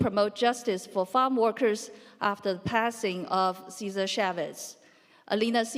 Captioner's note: none